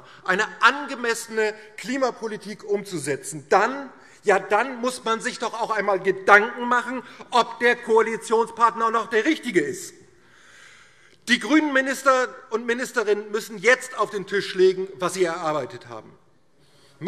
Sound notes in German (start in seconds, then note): none